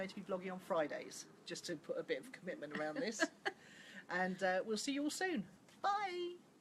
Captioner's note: laughs